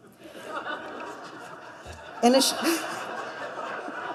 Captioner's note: laughter